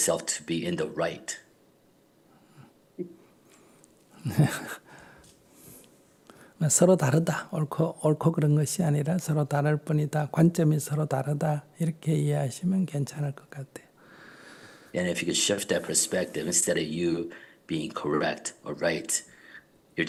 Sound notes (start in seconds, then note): 4.2 laughter